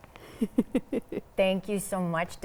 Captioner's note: laughs